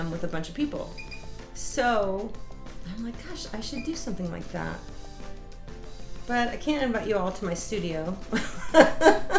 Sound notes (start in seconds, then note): 8.3 laughs